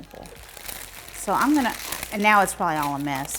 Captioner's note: paper rustling